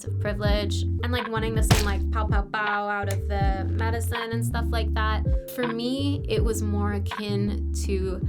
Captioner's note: pow pow pow